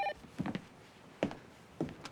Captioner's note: phone rings